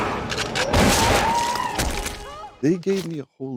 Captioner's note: gunshot